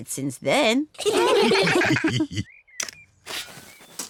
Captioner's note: all laugh